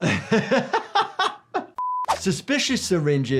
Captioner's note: laughs